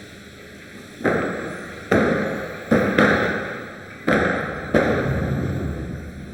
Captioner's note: doors clunking